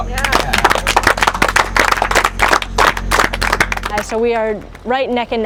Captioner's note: applause